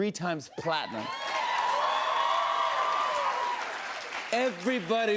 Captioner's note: cheers and applause